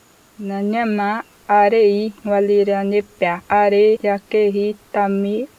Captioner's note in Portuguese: Mulher falando Manoki